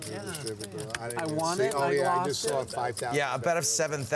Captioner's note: chattering